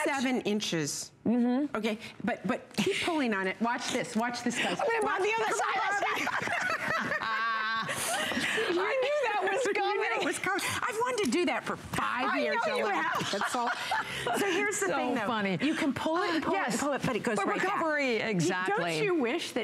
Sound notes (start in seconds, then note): 11.9 laughter